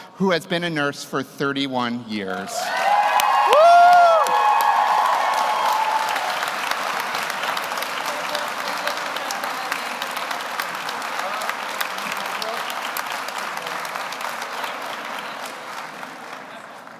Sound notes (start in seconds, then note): 4.3 audience applauds; 4.3 audience cheers